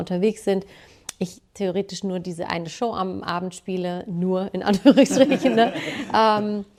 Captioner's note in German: gelächter